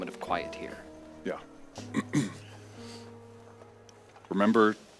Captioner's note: he clears his throat